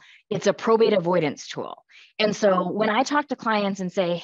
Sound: none

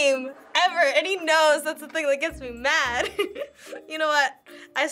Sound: laughs

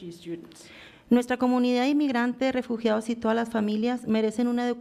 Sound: foreign language

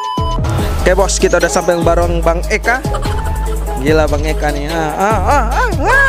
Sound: laughing

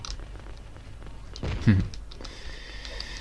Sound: snigger

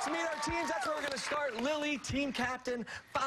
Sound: cheers and applause

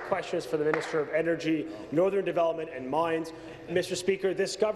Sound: applause

